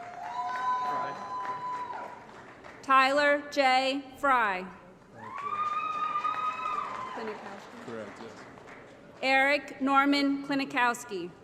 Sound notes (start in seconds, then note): 0.0 applause & Cheering; 5.1 applause & Cheering